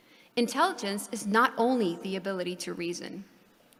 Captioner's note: none